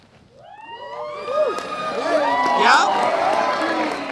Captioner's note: cheers